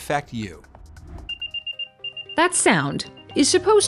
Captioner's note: AirTag beeping